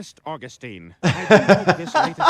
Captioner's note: laughing